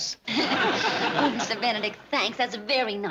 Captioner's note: laughs